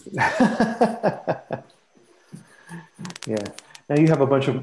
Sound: chuckles

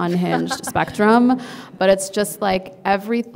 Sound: laughing

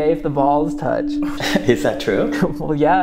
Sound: laughs

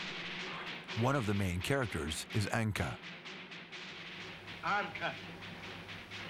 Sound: russian dialogue

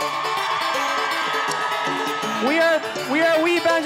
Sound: audience cheering and applauding

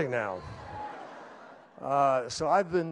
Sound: laughter

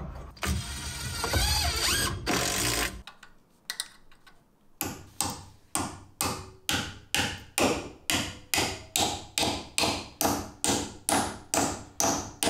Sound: impact driver being used followed by hammering nails into palce

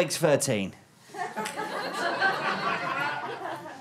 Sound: audience laughter

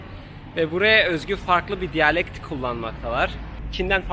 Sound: Cantonese

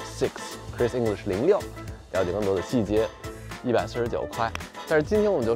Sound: speaking in foreign language

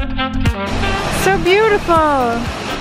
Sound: water splashing

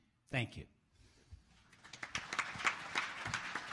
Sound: applause

